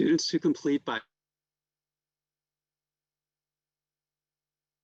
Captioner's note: audio cuts